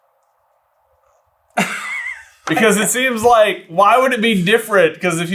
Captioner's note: laughs